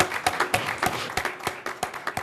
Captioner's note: applause